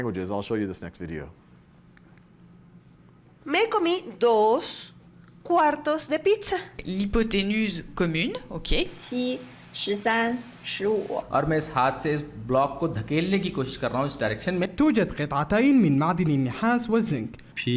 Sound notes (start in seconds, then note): 3.4 woman speaking Spanish; 6.9 woman speaking French; 8.9 woman speaking Mandarin; 11.3 man speaking Hindi-Urdu; 14.8 man speaking Arabic